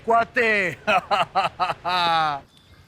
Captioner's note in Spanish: Risas